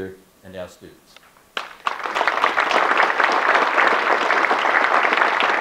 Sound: audience clapping

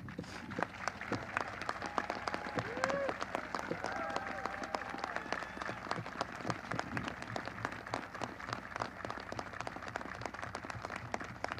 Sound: applause

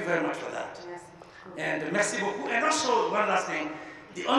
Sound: both speaking in a foreign language

